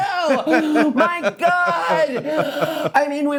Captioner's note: laughing